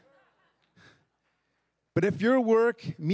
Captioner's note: crowd laughs